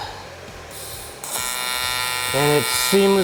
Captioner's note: torch buzzing